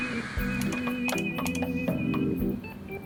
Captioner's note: buttons click